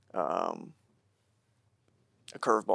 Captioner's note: none